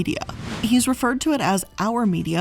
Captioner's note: air whooshing